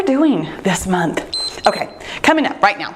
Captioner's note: timer beeps